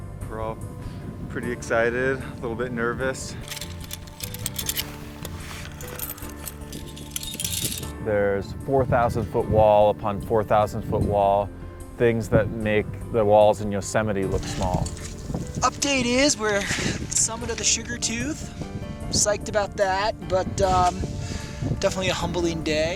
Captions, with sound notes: We're all pretty excited, a little bit nervous. [metal clinking] There's 4,000-foot wall upon 4,000-foot wall, things that make the walls in Yosemite look small. - Update is, we're at the summit of the Sugar Tooth. Psyched about that, but, um, definitely a humbling day.